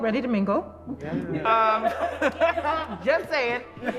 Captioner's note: laughter